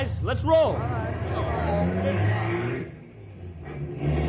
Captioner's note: engine revving